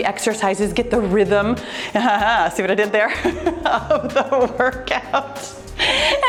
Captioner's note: laughs